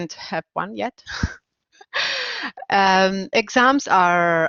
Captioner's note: laughing